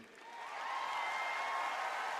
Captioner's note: applause